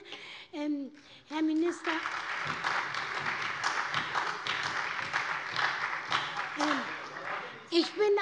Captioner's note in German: Beifall bei der SPD